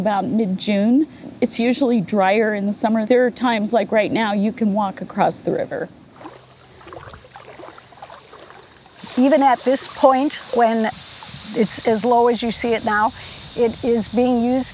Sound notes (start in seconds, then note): 6.1 water splashing